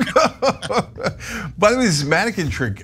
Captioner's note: laugh